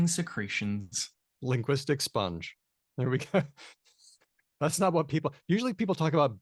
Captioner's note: chuckles